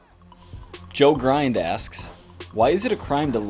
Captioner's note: voiceover